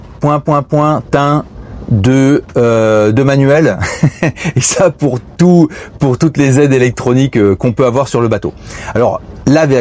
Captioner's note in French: rires